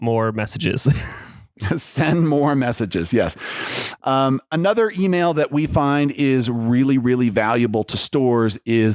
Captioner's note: laughs